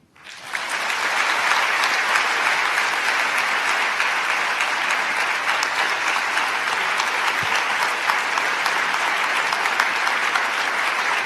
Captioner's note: applause